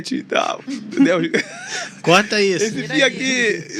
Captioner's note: risadas